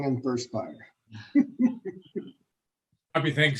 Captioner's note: laughs